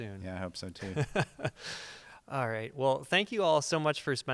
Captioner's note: chuckles